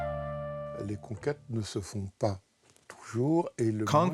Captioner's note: French spoken audio